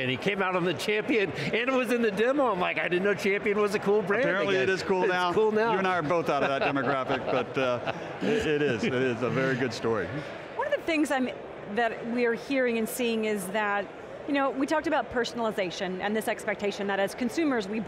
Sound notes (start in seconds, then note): 5.8 laughing